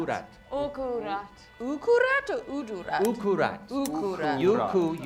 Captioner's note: none